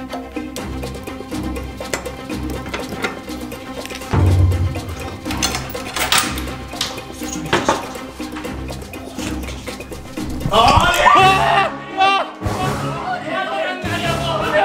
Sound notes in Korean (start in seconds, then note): 1.8 자물쇠 여는 소리; 4.1 둥, 효과음; 5.2 쇠사슬 소리; 10.7 놀란 비명